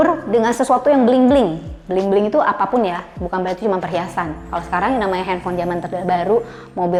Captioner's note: bling-bling